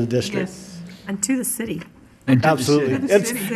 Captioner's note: woman's Voice